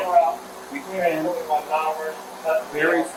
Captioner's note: radio chatter